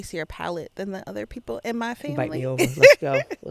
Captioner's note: laughing